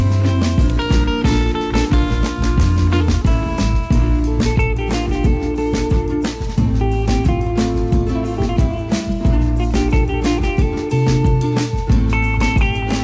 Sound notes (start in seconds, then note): none